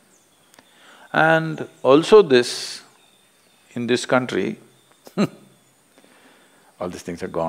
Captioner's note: laughs